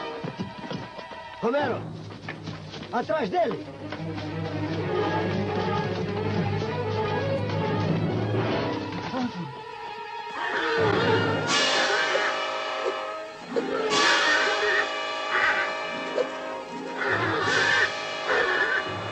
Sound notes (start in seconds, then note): 10.3 whinnies